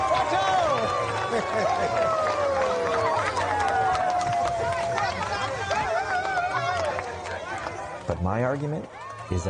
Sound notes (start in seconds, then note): 0.7 laughs; 3.1 crowd cheers and applauds